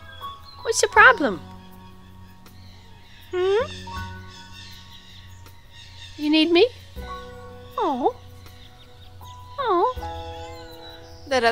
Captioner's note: meow